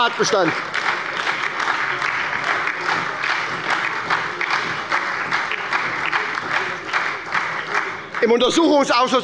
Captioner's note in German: Beifall bei der SPD und der LINKEN